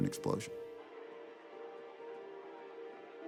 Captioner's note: cheering and applause